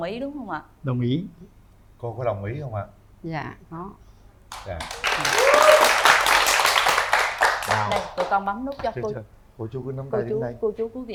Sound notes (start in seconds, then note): 4.5 applause